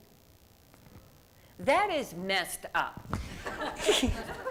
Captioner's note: laughs